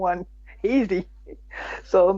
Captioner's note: laughs